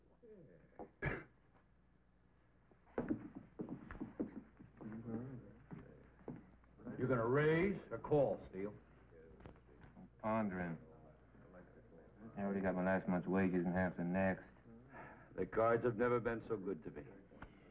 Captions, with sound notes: (coughs) (crowd chattering) - You gonna raise or call, Steel? - I'm pondering. I already got my last month's wages and half the next. - The cards have never been so good to me.